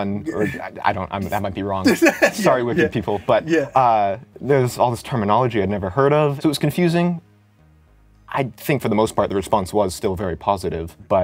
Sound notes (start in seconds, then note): 1.8 laughs